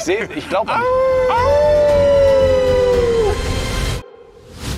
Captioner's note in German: Wolfsgeheul